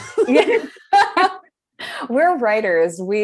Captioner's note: laughing